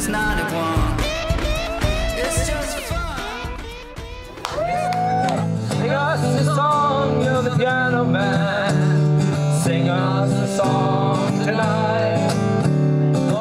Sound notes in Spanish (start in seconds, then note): 4.0 la gente aplaude y anima